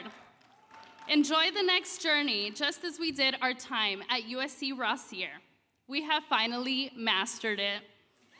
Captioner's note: speaking Spanish